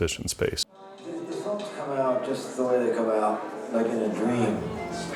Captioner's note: indisctinct chatter